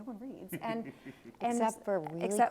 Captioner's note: laughs